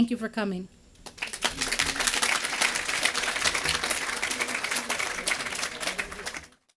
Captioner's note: applause